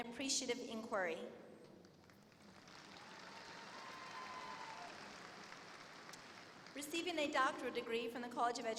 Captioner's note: applause